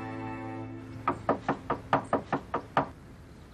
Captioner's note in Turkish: Kapı çalınır